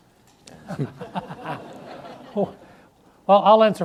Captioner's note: audience laughs